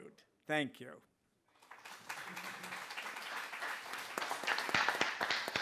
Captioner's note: applause